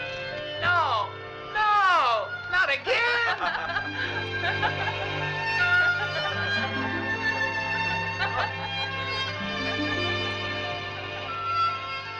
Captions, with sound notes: No, no, not again (laughing) (light orchestral music)